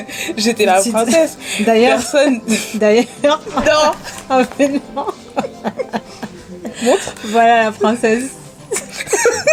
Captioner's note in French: rires